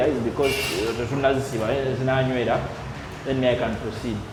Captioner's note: foreign language